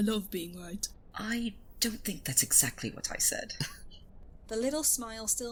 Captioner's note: he laughs